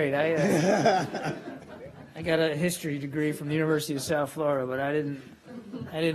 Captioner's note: laughter